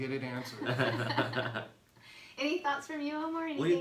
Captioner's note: laughing